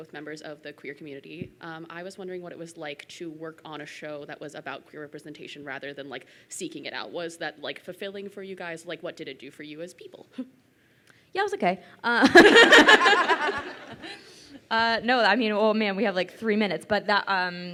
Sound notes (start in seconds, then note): 12.2 laughing